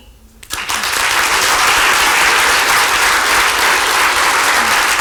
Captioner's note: applause